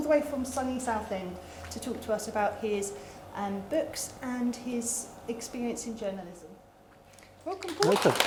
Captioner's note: applause